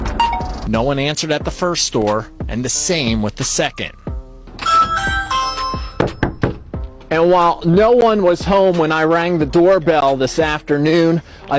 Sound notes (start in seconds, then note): 4.6 door bell ringing; 5.9 knocking on door